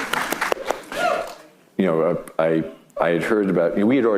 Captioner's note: clapping; audience clapping; audience cheering